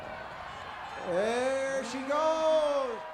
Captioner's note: crowd cheers